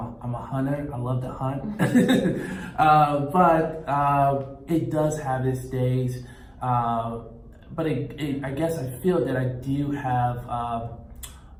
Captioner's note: laughs